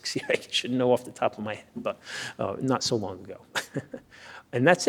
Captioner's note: laughs